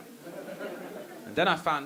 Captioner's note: audience laughing